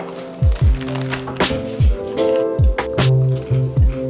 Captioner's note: biscuit crunching